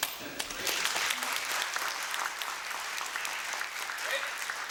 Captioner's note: applause